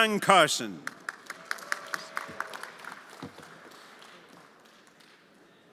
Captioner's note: everyone applauding